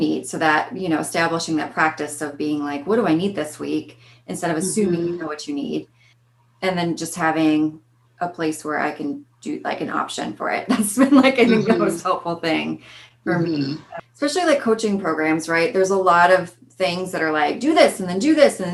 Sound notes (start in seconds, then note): 11.3 laughing